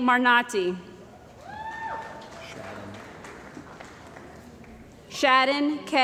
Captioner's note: cheering & Applause